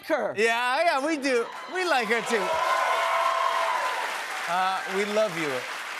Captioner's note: cheers and applause